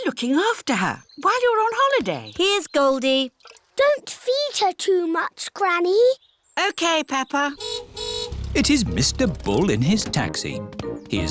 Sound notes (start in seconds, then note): 7.6 car horn honks